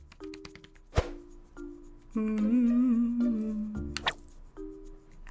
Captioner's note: humming